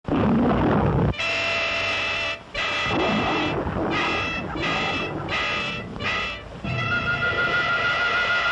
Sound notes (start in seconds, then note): 0.1 roars; 1.1 instrumental music